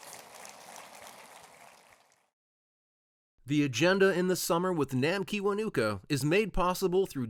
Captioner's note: applause